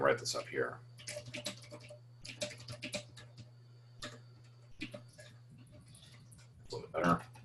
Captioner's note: typing Sounds